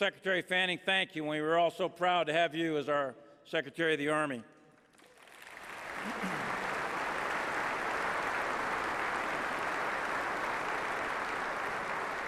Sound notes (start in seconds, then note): 4.8 applause